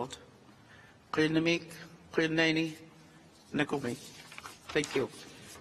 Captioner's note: speaks in a foreign language